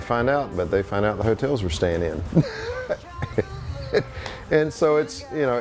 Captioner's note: laughs